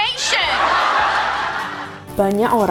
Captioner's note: laughing track